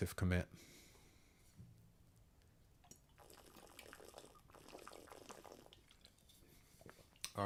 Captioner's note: water pouring